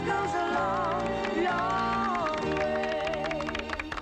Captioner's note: audience applauding